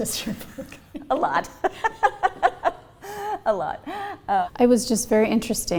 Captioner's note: laughter